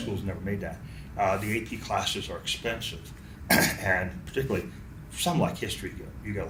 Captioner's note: clears throat